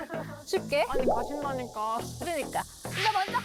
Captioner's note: flustered sound effect